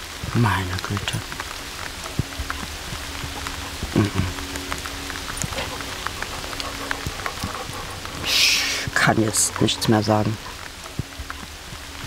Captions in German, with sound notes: Meine Güte. M-m. (Regenprasseln, Hundehecheln) Ich ... kann jetzt nichts mehr sagen.